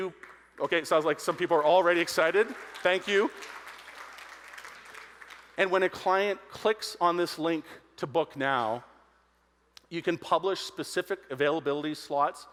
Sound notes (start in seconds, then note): 3.7 audience applauding